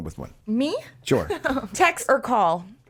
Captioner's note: lauging